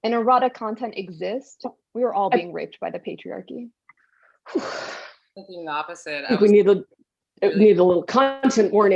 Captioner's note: sighs